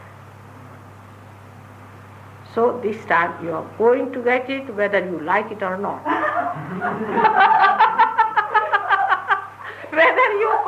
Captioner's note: laughter